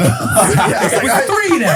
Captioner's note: all laughing